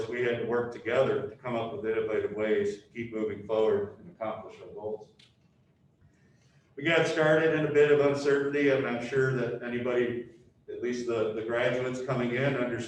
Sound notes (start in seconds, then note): none